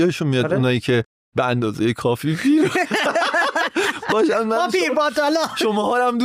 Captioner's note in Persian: خنده